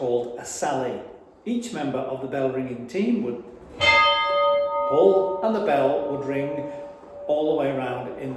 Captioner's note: rings